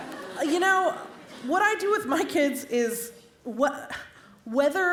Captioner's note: laughter